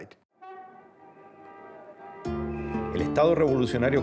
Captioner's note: car horns honking; speaking Spanish